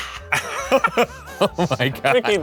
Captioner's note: exhaling; laughing